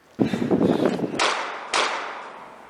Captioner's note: gunshot